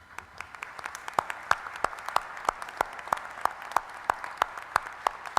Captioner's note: applause